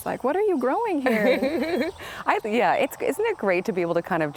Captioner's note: laughs